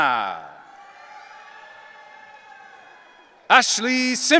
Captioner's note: audience cheering